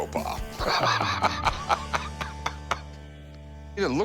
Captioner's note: laughs